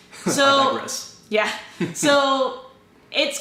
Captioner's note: laughter